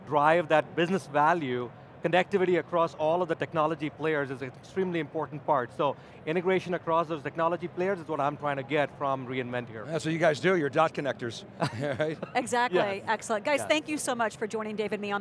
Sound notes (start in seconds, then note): 11.6 chuckles